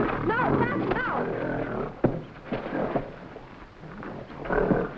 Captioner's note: gorilla grunting